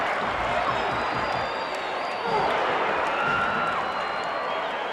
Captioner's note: audience chattering